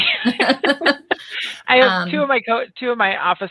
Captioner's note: all laugh